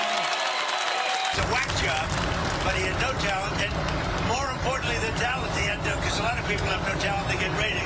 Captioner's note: cheers and applause